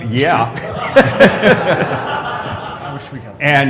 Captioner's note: laughter